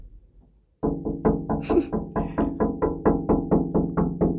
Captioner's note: knocking